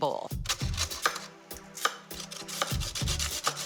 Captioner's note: carrot grating